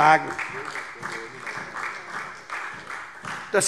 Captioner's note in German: Beifall SPD